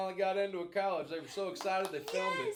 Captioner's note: clapping